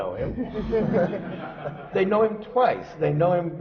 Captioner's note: laughter